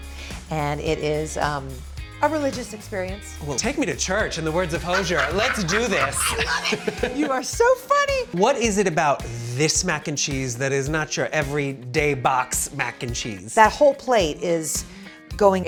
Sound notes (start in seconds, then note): 4.5 laughing